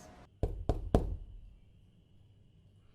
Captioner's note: knock at door